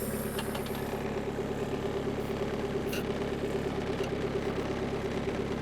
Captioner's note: skid steer engine rumbling